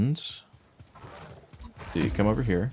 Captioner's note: gunshots